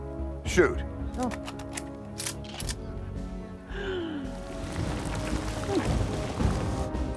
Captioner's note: laughs